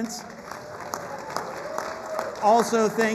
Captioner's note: applause